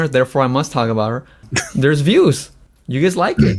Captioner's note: laughs